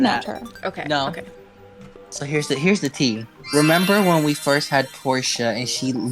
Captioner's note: flashback sounds